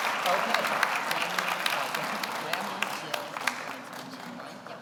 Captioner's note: speaking off mic